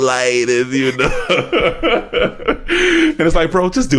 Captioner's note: laughs